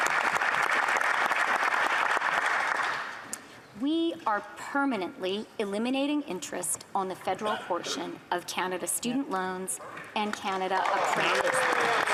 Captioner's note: applause